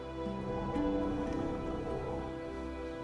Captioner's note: cold wind rises